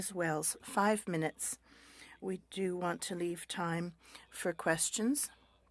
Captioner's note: speaking French